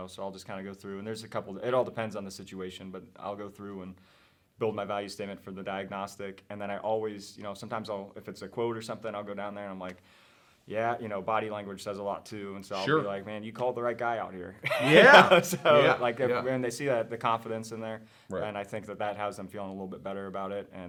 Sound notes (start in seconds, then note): 14.6 laughs